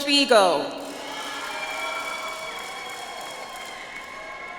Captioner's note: audience applauds